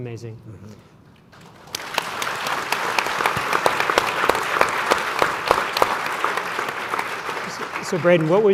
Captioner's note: applause